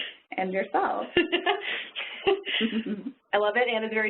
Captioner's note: laughing